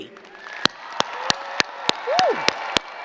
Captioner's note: crowd cheering and clapping